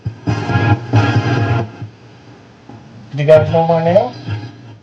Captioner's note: radio static hissing